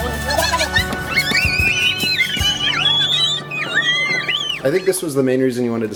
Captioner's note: children screaming